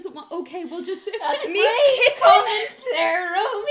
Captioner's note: laughs